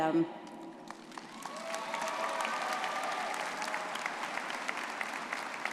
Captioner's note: audience cheering and applauding